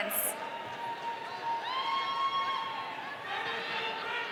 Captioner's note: audience cheering